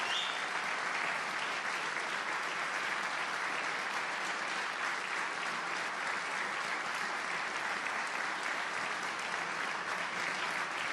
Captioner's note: applause